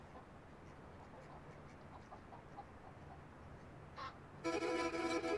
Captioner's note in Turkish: Hayvan sesi